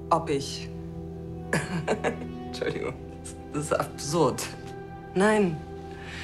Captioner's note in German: lachend